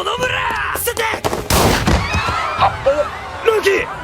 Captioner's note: Murase fires his gun